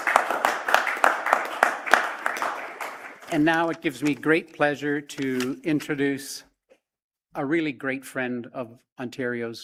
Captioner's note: applause